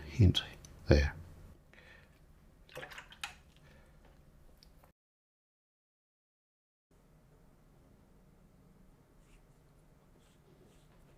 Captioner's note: silence